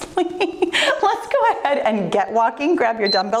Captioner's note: timer beeps